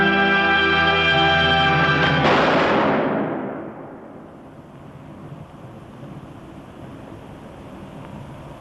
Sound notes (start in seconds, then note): 2.2 gunfire